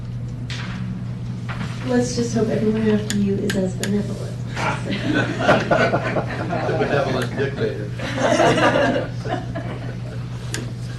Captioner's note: laughter